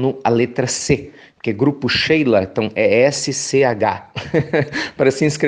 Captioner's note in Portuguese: risos